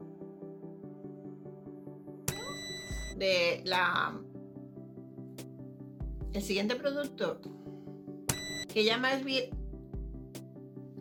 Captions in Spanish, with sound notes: (sonido de pitido agudo) de la.... el siguiente producto.... (sonido de pitido agudo) que ya más bien...